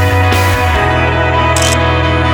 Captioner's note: photo click